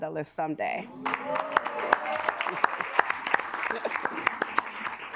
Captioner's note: assembly clapping